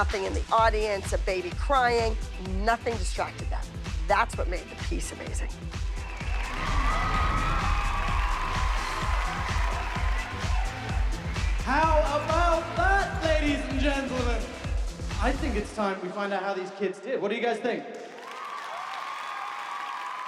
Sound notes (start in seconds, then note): 5.9 cheering; 7.5 cheering, applauding; 18.0 audience cheering